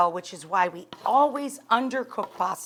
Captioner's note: pan clangs